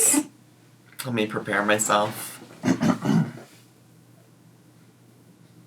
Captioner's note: clears throat